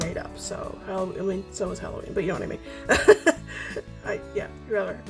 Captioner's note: laughs